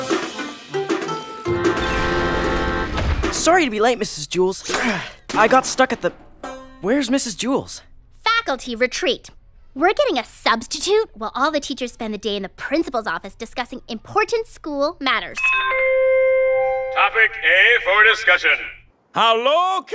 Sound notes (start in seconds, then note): 3.2 grunt of effort; 15.3 p.a. chimes